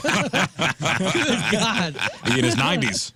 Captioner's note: laughing